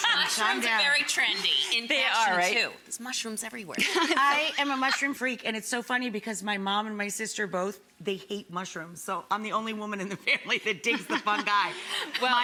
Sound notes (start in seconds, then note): 3.9 all laugh